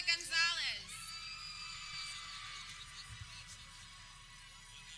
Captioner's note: people cheering